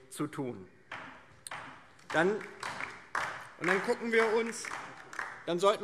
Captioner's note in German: Beifall DIE LINKE